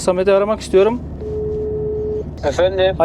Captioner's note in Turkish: Telefon bip sesi